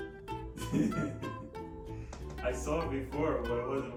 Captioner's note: laughs